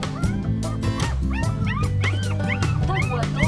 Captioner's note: puppies yelping